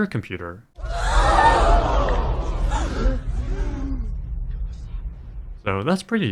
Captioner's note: crowd gasping